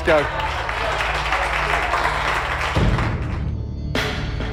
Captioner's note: applause